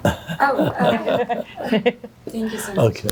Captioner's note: laughing